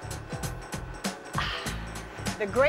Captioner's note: sighs